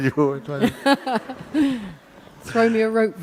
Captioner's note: questioner laughs